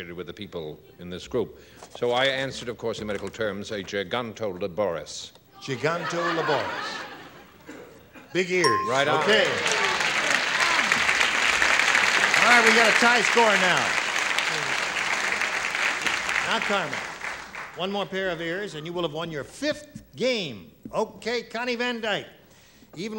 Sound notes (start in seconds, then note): 8.6 ding; 9.0 applause